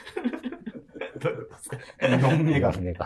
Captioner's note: laughing